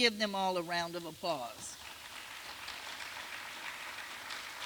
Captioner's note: applause